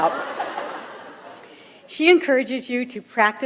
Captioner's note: audience laughs